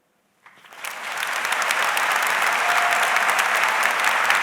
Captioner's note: audience applauds